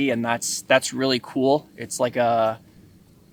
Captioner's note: none